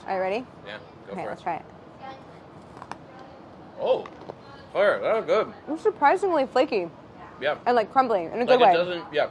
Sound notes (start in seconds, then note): 3.0 crunching